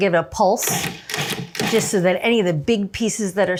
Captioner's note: food processor whirring